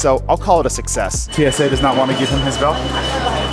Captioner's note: alarm beeping